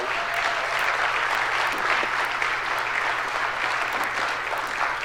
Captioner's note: audience applauds